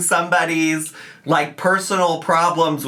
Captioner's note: none